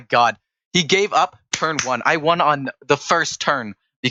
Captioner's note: clap Clap